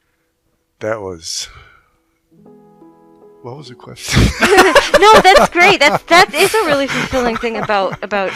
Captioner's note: laughing